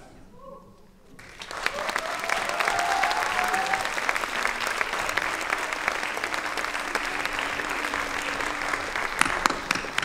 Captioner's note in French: applaudissements